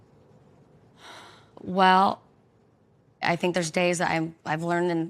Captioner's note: sighs